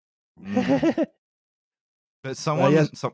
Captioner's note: laughs